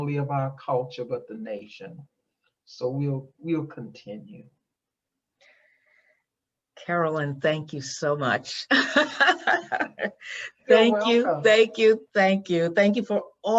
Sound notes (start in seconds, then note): 8.9 laughs